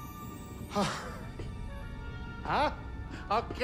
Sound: relieved sigh

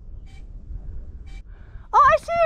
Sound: drone buzzing

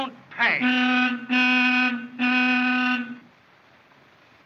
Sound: horn Honks

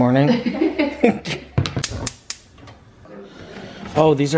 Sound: laughing

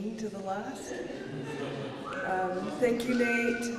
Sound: laughs

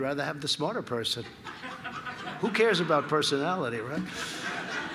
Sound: laughter

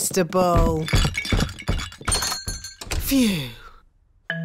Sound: thumping

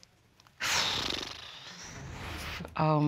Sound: flaps lips

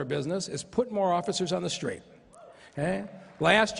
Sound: applause

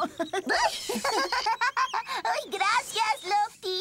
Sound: giggling; laughing

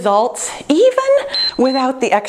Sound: timer beeps

